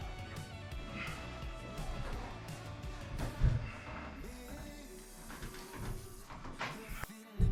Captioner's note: upbeat music; grunting